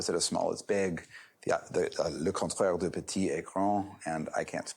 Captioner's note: french